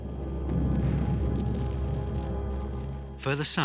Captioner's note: explosions booming